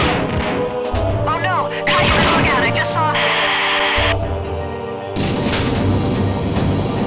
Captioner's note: static